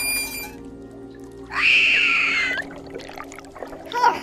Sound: high pitched screech

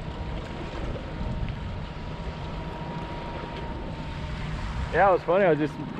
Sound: boat engine idling

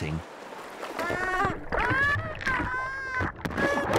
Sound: cries

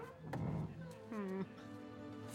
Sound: whimpers

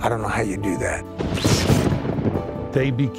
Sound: thunder and lighting

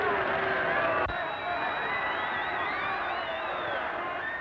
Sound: crowd cheering

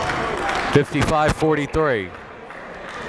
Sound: applauding

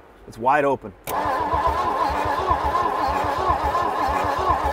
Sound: engine revs

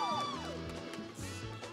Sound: crowd cheering

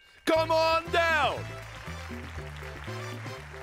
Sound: applause

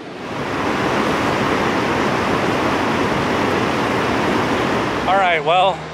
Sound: rushing water

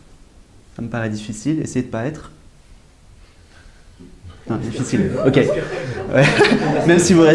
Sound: audience chuckles and laughs

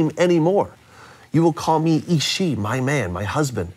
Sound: speaks in foreign language

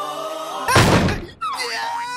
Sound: the screaming in language continues; slam!

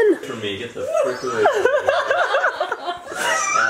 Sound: laughing

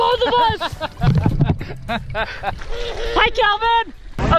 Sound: laughs

